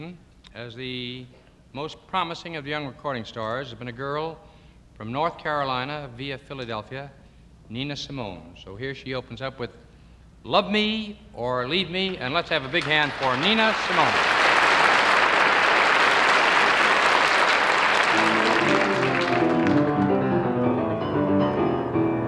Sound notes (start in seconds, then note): 13.6 audience applauding; 18.1 jazzy piano music